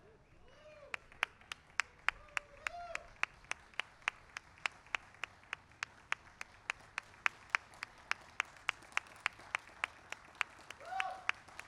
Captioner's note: applause